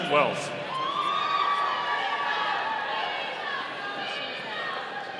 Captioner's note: audience cheering